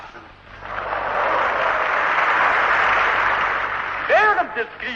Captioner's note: applause